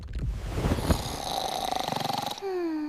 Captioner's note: snoring